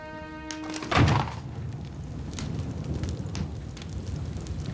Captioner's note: flames roaring and crackling